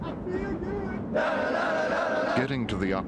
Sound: men chanting; voiceover

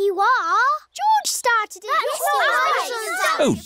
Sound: all arguing

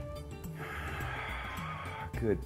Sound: exhaling

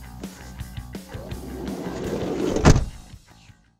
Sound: instrumental rock music; van door closing

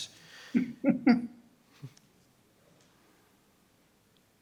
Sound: laughs

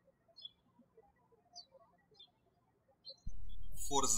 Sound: bird chirping

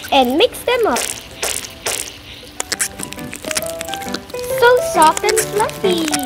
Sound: slime squashing

